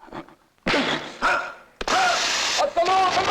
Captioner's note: grunting; electricity crackling; non-english speech